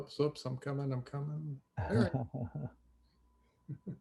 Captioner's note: laughs